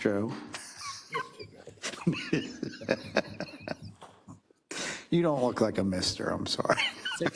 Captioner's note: laugh